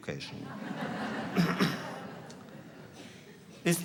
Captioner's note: laughter